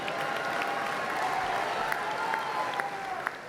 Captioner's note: cheers and applause